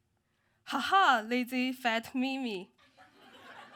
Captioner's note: laughs